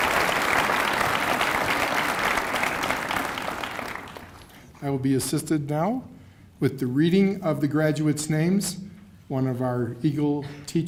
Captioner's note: cheers and applause